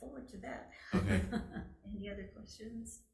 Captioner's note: chuckling